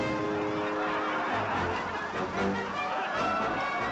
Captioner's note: people laughing